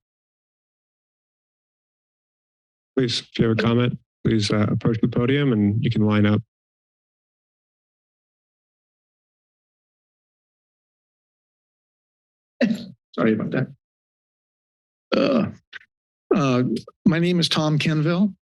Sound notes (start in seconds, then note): 0.2 silence; 6.8 silence; 12.6 coughs; 14.2 silence